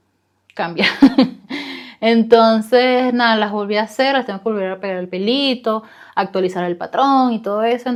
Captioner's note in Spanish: risas